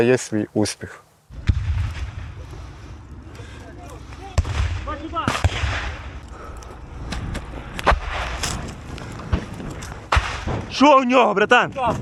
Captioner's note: sounds of explosions and gunshots